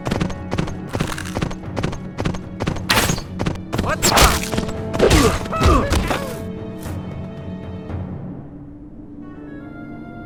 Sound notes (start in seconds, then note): 4.9 Gaylord_Steambath yells excitedly; 5.0 N00bly grunts